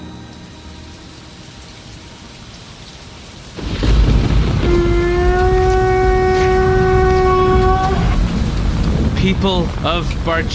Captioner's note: blows horn and announces loudly